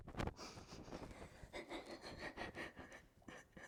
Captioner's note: sobbing